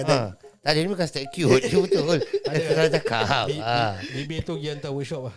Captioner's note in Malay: ketawa